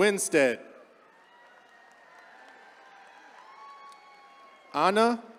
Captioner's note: attendees cheering